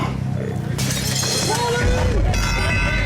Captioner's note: metal clanks